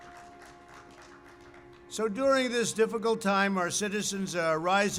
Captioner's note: applause